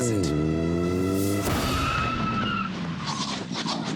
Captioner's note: car screeching